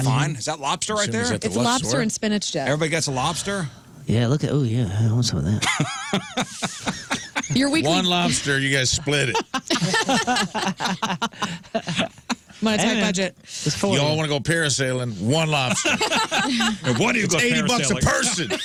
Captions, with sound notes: Is that lobster right there? It's lobster and spinach dip. Everybody gets a lobster. Yeah. Look at, oh yeah. I want some of that. (Laughing) One lobster, you guys split it. (Laughing) My tech budget. Y'all want to go parasailing one lobster. (Laughing) And one of you go 80 bucks a person.